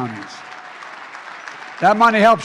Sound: applause

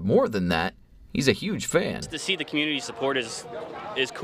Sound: cheering

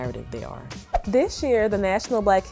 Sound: whoosh

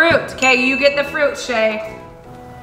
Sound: bell rings

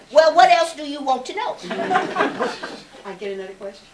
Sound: laughter

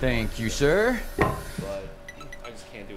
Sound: electronic beeping

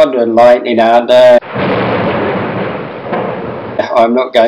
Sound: thunder and lightning

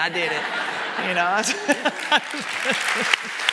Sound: audience laughing; audience clapping

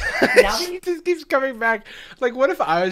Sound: laughs

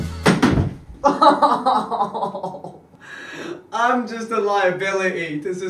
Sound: laughs

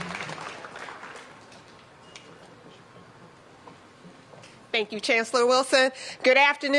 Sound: applause

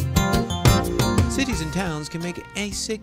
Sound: voiceover

